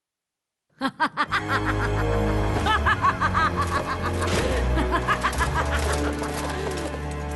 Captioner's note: evil laughter